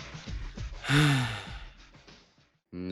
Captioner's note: exhales in disappointment